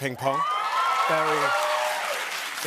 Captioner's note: cheers and applause